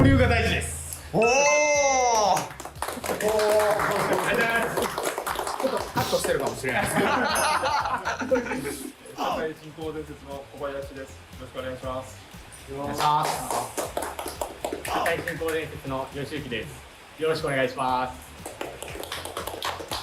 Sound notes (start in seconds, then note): 5.4 laughing